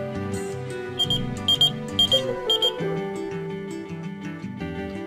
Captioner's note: beep beep